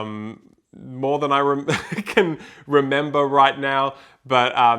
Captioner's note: laughs